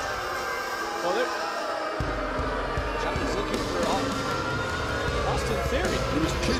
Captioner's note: crowd chatter